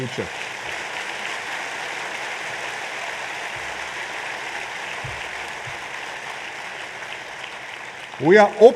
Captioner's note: applause